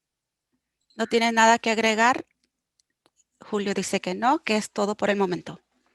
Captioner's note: speaking foreign language